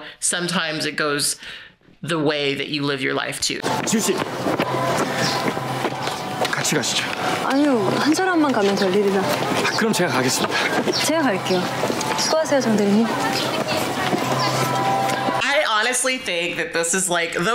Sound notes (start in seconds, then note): 3.9 speaking Korean